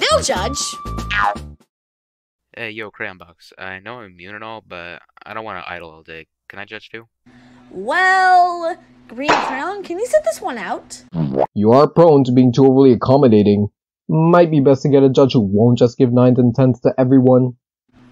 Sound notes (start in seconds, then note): none